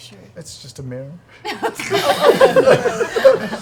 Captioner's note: laughter